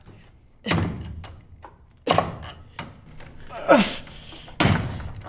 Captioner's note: thudding; groaning